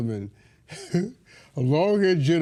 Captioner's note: laughing